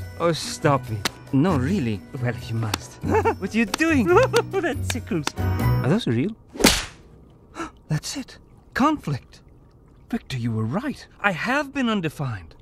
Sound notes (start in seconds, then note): 3.0 giggles; 7.4 gasps